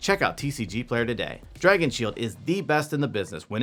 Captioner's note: none